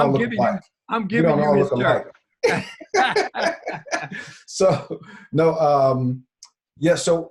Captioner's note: laughing